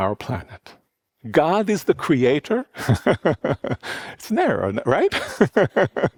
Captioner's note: laughs